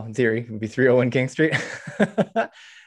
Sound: chuckles

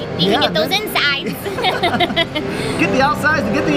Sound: laughter

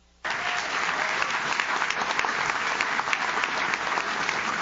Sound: audience claps

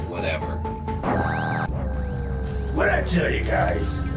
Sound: screen buzzes

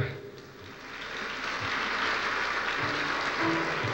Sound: applause

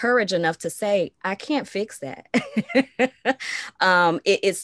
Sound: laughs

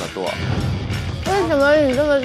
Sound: confident

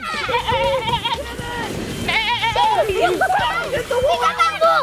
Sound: sheep baaing

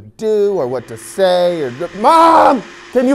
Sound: vacuum noise

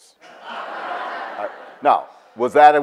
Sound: audience laughs

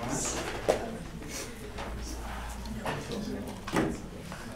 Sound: background Discussion

